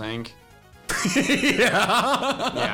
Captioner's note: laughs